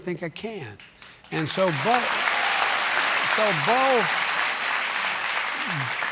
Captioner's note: applause